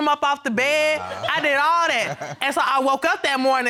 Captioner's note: laughs